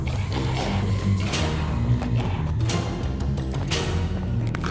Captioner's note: figure growling